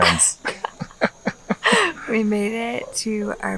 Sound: laughing

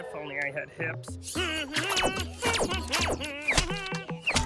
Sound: humming

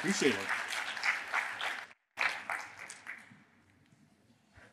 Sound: applause

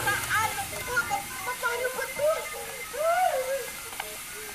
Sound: sobs

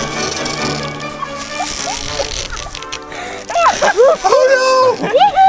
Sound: girl giggles

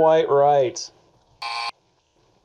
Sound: buzzer buzzes

